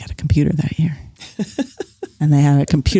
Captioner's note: laughs